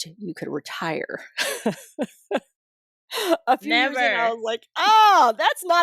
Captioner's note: laughter